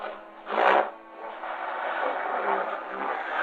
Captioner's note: engine revving